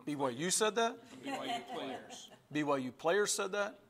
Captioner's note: laughter